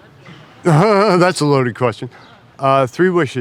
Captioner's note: chuckles